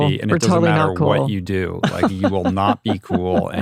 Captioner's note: laughs